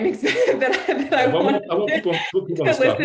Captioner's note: laughing